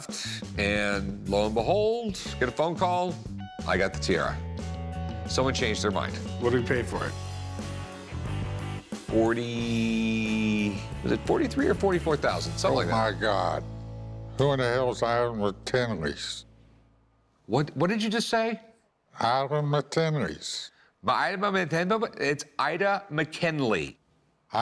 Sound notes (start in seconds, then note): 21.5 stuttering